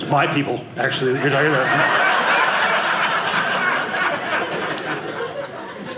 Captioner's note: audience laughing